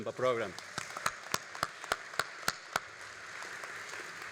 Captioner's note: all applauding